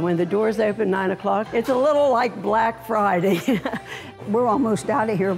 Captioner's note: chuckles